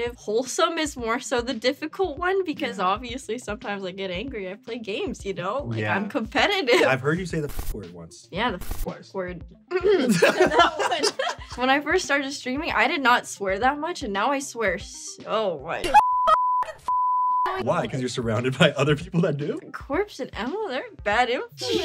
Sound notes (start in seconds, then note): 9.7 clears throat; 9.8 laughs; 15.9 beeping